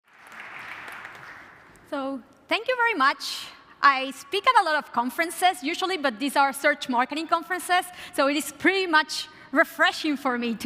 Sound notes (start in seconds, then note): 0.0 applause